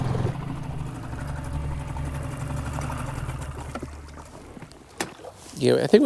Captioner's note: engine chugging; water sloshing